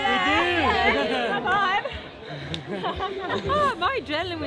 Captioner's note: laughs